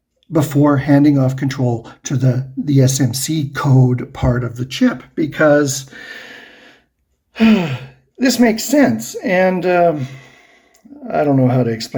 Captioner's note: sighs